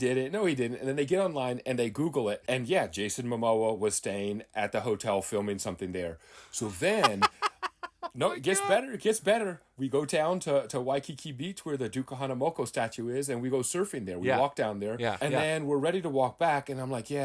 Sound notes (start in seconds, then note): 6.8 laughing